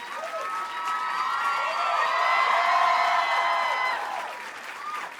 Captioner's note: applause and cheering continue